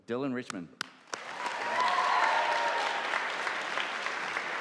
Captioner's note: audience applauding